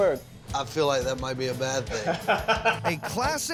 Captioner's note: laughs